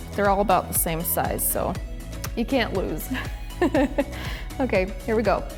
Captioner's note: laughs